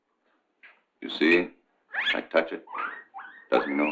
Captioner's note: guinea pig squeaking